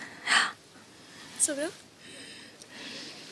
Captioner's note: gasp/sigh